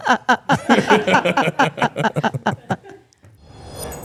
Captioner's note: all laughing